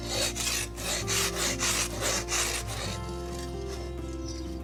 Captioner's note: snow crunching